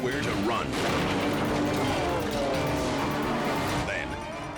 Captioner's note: dramatic music continues; car thuds